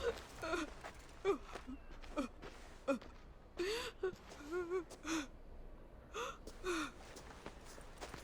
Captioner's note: sobbing